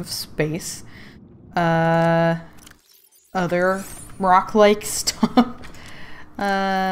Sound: laughs

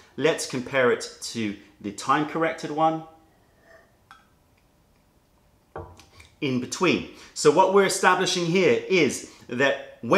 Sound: sips tea

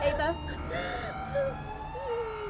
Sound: sobbing

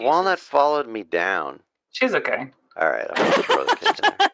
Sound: laughter

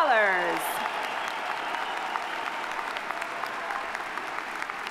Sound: audience applauding

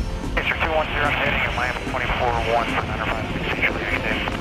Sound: radio chatter

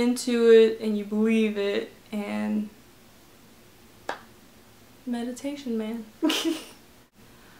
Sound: chuckle

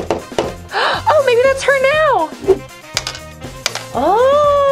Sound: knocking; gasps

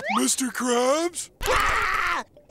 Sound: screams

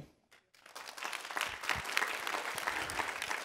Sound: applause

